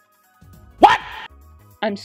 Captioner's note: jontron WHAT noise